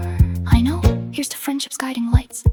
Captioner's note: female voice 1